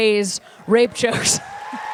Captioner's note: applause